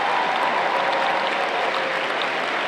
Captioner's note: applause